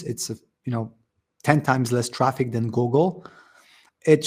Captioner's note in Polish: wdech